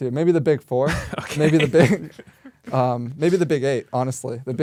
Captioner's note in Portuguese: risos